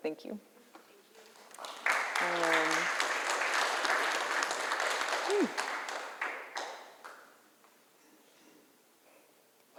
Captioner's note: applause